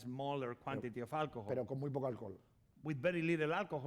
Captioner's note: speaking spanish